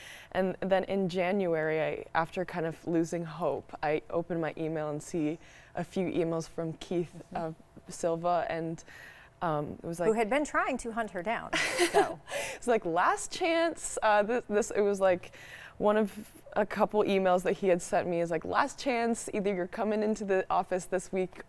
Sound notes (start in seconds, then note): 11.6 laughs